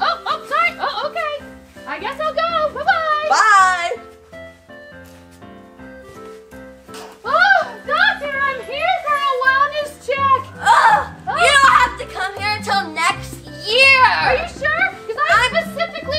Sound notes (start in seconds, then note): 0.3 Dory laughs; 10.6 assistant groans